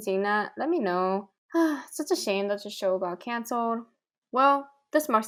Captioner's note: sighs